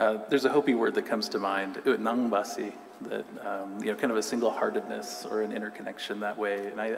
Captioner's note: non-english